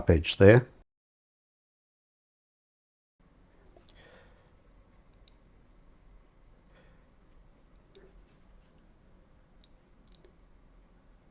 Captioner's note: silence